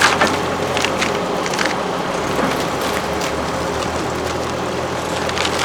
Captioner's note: wood crunching